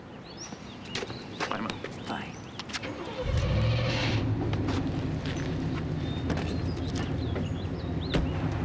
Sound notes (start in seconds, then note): 2.9 engine turns over